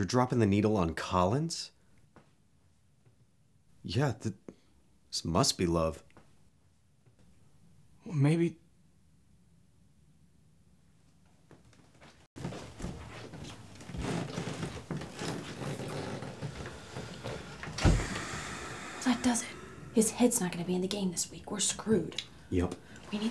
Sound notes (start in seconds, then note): 17.7 Owen sighing